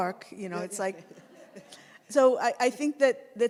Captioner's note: audience laughs